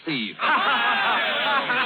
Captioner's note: all cheering